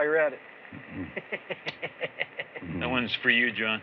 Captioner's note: laughs; smooches